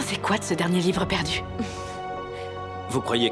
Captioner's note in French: rires